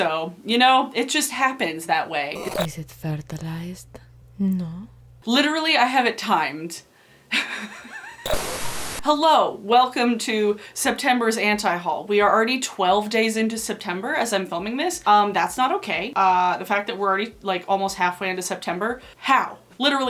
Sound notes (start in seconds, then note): 7.4 giggling; 8.1 static